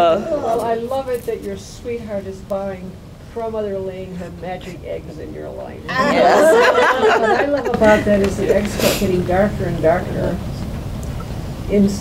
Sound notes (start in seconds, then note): 5.9 laughter